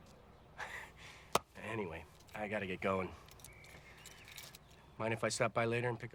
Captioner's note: laughs